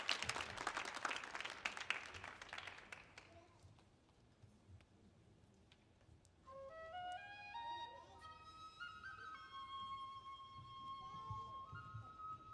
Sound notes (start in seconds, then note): 3.0 people chattering; 8.6 calming Japanese folk music